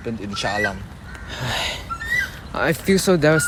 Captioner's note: sigh